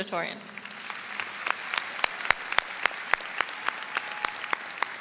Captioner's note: audience applauds